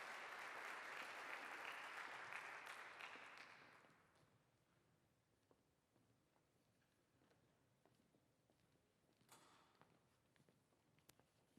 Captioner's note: applause